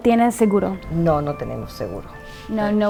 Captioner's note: interpreter speaking in Spanish; speaking in Spanish